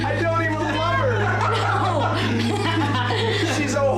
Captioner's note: laughter